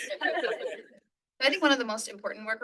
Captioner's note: all laughing